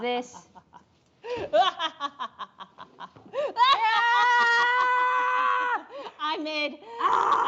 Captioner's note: maniacal laughter